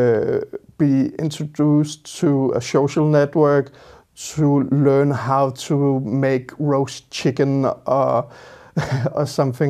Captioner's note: laughs